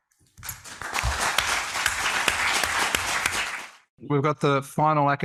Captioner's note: audience applauds